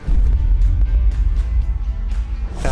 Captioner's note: logo thuds